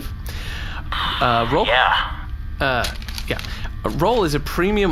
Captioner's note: excited